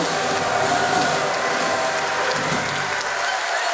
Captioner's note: cheering